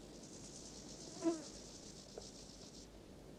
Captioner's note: buzz